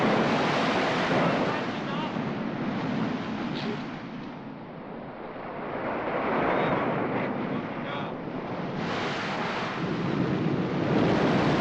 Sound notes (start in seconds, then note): 1.7 man shouts orders